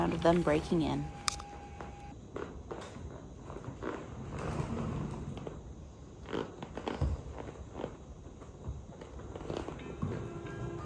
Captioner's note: music fades out; boots audibly creaking